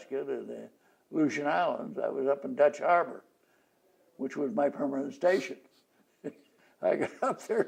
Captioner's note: laughs